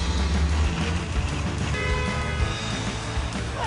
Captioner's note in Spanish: Ruido de los vehículos; Claxon